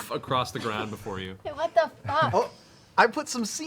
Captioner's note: laughter